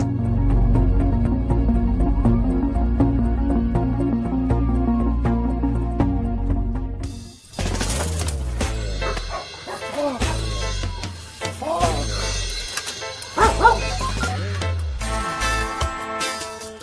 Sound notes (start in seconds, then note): 0.2 tense music; 7.5 reggae music; 8.9 dogs barking; 13.2 dogs barking; 14.2 phone dialing